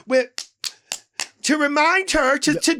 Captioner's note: Lady Bunny slaps